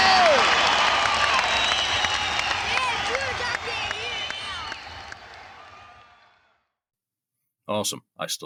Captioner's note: cheering